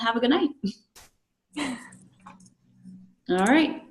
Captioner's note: laughing